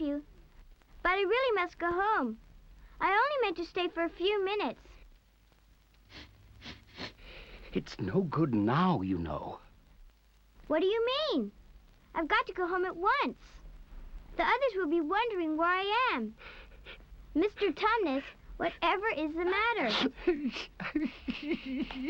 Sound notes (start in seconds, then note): 6.5 sniffling; 19.7 Tumnus weeping